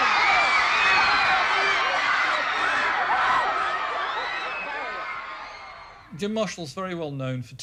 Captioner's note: crowds scream